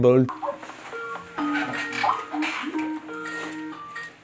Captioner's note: computer ringing